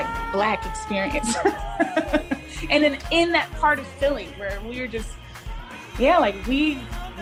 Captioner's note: laughter